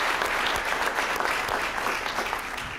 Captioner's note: applause